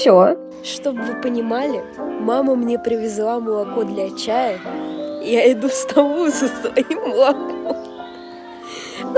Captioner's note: laughter